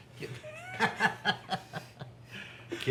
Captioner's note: Blue laughing